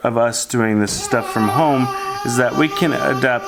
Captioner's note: babbling